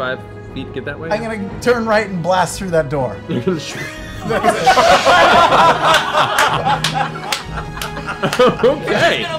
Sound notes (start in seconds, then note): 3.6 laughter